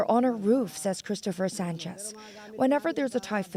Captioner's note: speaking alternate language